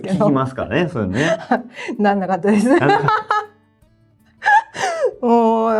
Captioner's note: laughs